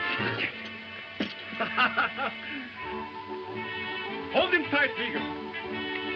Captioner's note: laughing